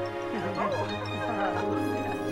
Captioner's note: laughing